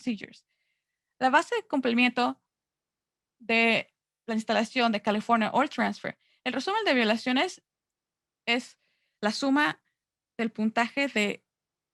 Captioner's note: Spanish